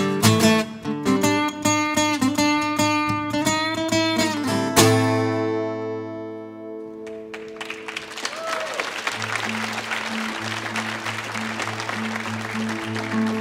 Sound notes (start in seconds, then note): 7.0 audience applauds; 7.0 audience member applauds; 9.2 brooding acoustic guitar music